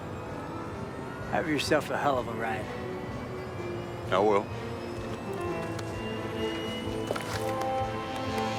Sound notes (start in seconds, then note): 5.0 footstep